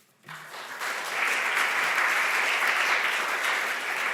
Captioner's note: audience applause